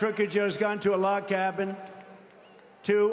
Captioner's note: applause